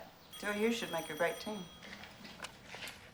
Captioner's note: phone Ringing